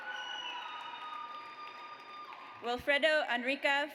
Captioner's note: audience cheers